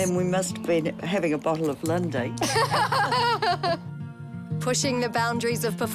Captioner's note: both laugh